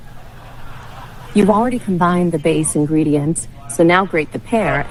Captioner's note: AI Voice